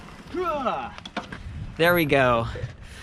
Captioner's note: triumphantly grunts